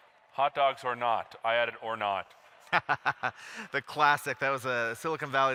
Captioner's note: laughs